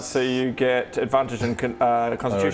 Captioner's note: none